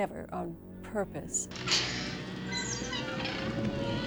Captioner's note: hinges creaking